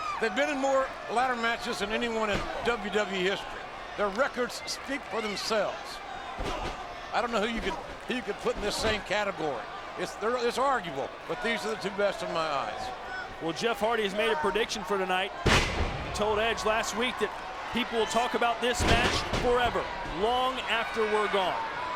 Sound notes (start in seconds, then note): 15.4 body thuds